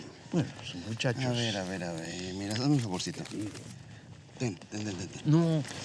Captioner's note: speaking spanish